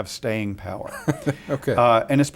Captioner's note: laughs